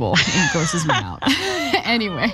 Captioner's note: laugh